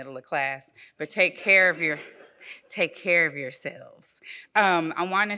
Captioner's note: audience laughs